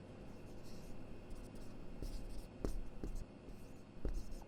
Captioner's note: marker thudding